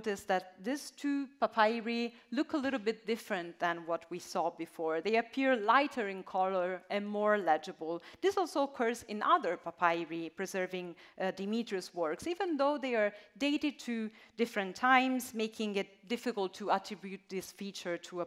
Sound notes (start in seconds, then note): none